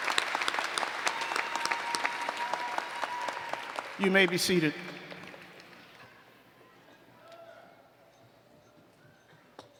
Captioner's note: applause